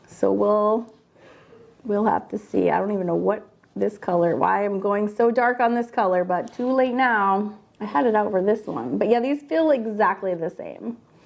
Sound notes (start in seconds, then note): none